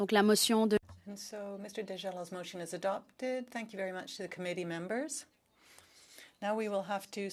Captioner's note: speaking French